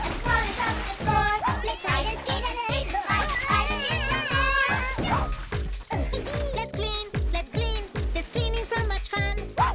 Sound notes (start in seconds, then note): 5.5 chuckling